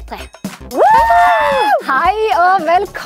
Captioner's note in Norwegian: Jubel